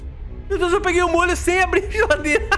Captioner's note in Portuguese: risos